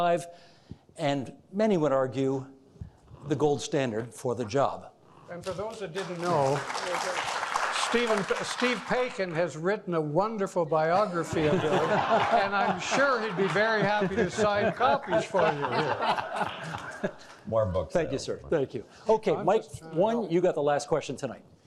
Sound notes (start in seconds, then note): 5.4 audience applauding; 15.0 all laughing